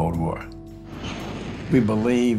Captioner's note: explosion